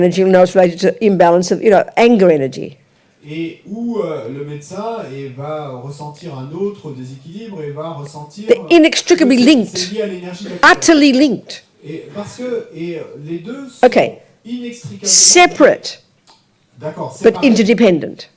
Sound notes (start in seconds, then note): 3.2 audience member speaks in French; 12.2 audience member speaks in French; 18.2 audience member speaks in French